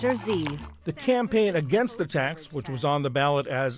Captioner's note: voice-over